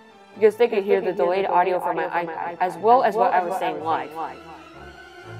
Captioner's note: with echo